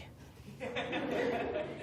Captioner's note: laughter